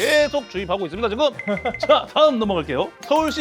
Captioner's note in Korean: 웃음